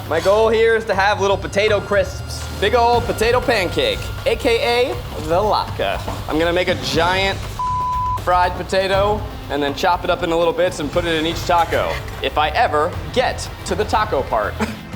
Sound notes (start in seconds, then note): 7.6 beep; 14.7 dramatic music